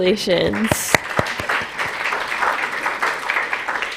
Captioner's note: applause